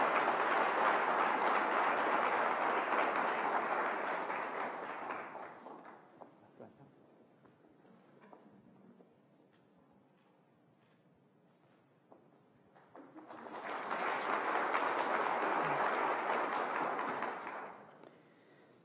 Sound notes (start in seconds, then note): 7.2 applause